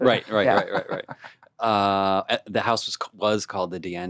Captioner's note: laughing